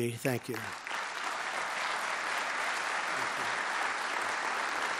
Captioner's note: applause